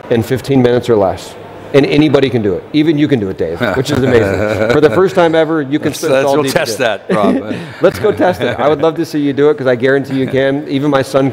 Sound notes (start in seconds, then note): 3.6 laughs